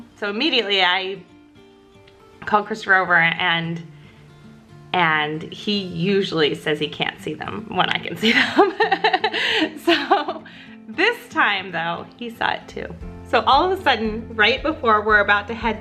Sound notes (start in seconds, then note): 8.3 laughs